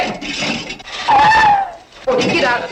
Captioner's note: screams